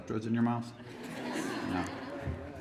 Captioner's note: laughter